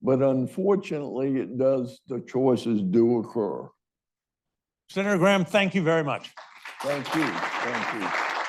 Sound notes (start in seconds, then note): 6.1 audience applauds